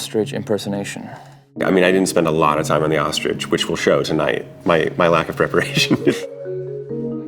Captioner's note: laughs